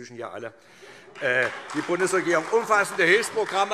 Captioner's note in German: Heiterkeit und Beifall SPD